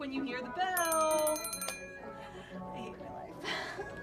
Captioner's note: bell rings